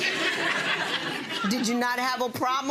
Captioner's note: audience laughing